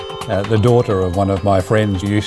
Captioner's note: voiceover